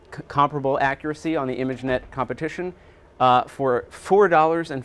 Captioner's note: door slamming